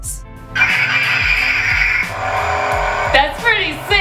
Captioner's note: toy buzzing